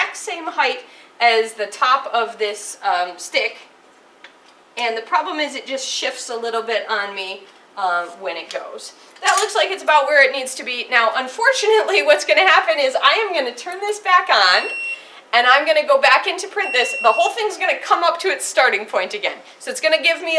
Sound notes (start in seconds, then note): 9.2 the clamp closes